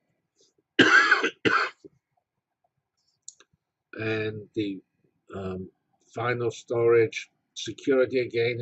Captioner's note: cough